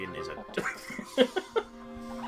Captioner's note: laughs